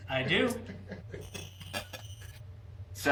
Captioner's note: laughter